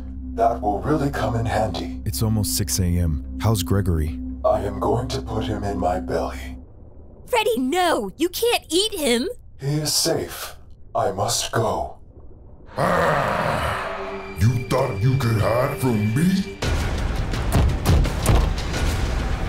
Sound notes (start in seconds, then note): 12.7 growling; 16.6 ominous music